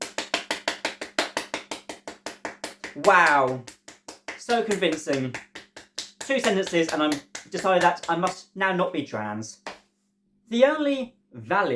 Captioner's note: clapping